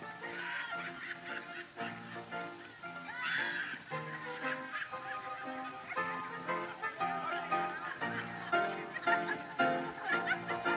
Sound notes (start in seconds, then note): 0.3 people Laughing; 5.8 laughing Continues